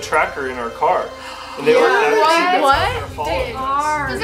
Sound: mom gasps

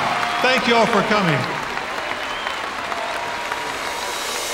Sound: applause

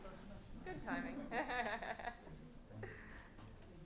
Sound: laughing

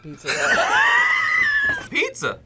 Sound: both laugh

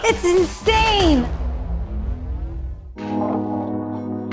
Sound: logo thuds; laid back music

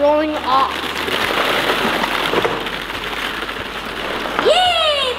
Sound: balls clattering

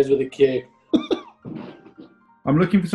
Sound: giggling

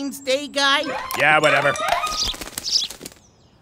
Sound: birds chirp

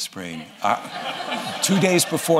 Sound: laughter

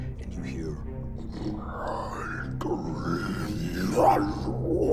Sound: growling evilly

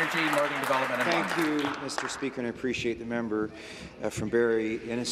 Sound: applause

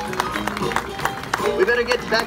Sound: audience claps

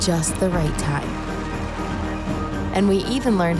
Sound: audience clapping

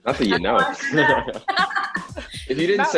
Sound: laughs; chuckles

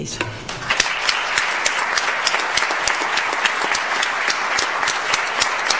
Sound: audience applauds

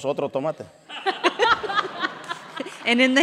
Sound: all laughing

